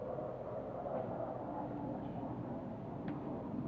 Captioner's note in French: Bruit d'avion